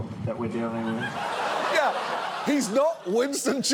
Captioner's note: audience laughs